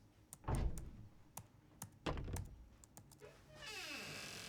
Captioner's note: door clattering; fingers tapping; door creaking